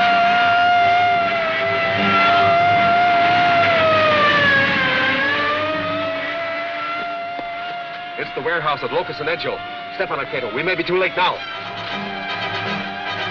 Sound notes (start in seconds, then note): 2.6 sirens